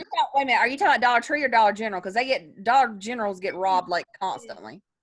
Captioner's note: none